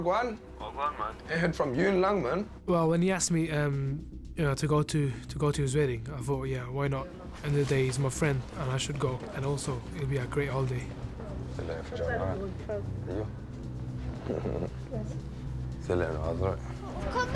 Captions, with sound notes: ASIF, AIN'T HEARD FROM YOU IN LONG, MAN. WELL, WHEN HE ASKED ME TO GO TO HIS WEDDING, I THOUGHT, "YEAH, WHY NOT?" HE'S MY FRIEND, AND I SHOULD GO. AND ALSO, IT WOULD BE A GREAT HOLIDAY. [ SPEAKING NATIVE LANGUAGE ] [ CHUCKLES ]